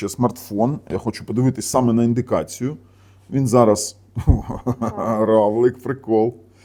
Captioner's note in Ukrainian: сміх